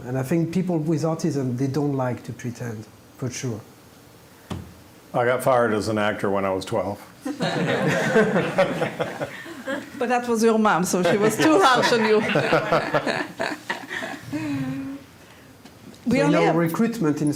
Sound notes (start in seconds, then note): 9.9 audience laughs; 16.0 laughing